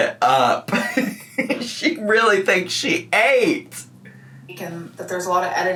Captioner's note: giggles